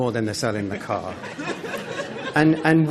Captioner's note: laughter